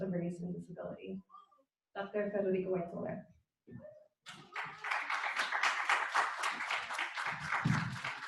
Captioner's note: applause